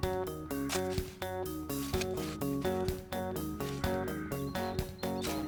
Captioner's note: shoveling Noise